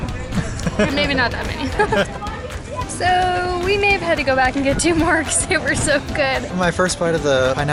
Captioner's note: laughter